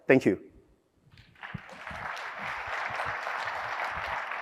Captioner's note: applause